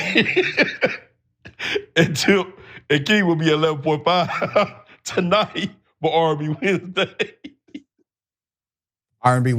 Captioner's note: laugh